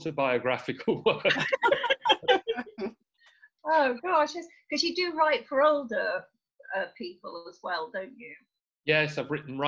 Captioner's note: laughter